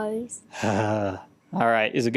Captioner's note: sigh